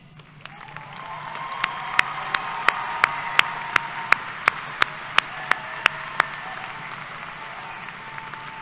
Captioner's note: applause